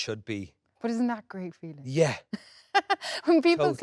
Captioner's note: Jessie laughing